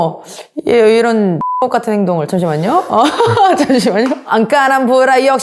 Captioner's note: laugh